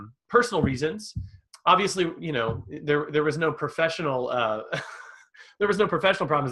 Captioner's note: laughs